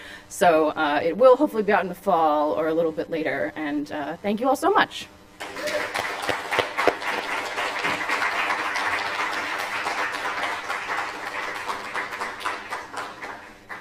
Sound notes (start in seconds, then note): 6.4 applause